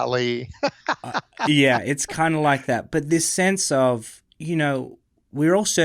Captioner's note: laughs